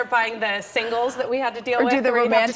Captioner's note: laughter